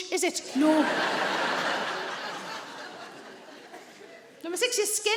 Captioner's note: audience laughing